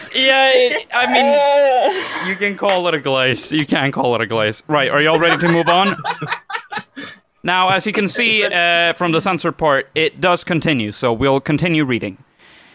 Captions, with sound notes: – Yeah, I mean, you can call it a glaze You "can" call it a glaze. Right, are y'all ready to move on? – [LAUGHING] – As you can see from the blurred part, it keeps going. So we'll continue reading.